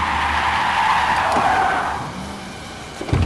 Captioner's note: tire Screeching